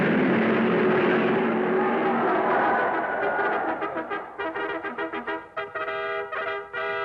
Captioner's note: crowd cheering